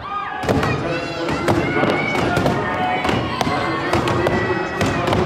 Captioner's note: muffled announcer calls event as crowd cheers